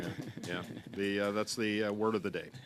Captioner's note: laughter